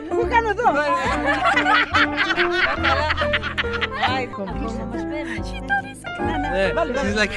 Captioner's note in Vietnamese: Tiếng cười